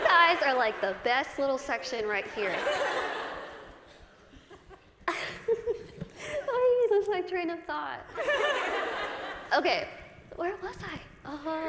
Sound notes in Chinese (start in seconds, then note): 2.8 大笑; 5.0 Lizzie也笑了; 7.8 大笑